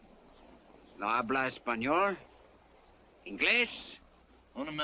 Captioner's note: Lin speaks Spanish; man speaks Spanish